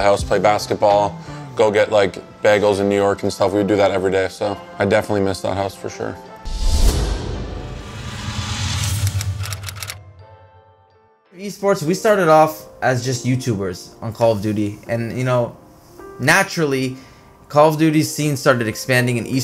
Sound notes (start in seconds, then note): 6.7 upbeat music; 9.4 typewriter clicking